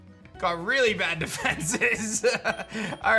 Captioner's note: chuckles